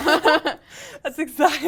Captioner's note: laugh